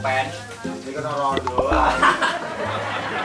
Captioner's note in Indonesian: hahahahahaha